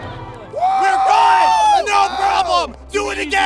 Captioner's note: yelling